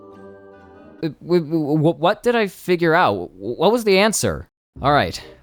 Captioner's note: stammers